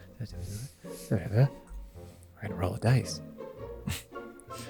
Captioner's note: whisper whisper; whisper